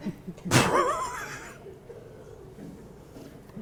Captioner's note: laughs